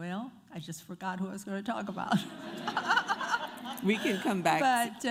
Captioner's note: crowd laughs